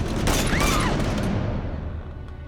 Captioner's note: Kaycee screams